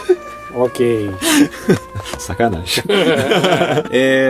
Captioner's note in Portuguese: risos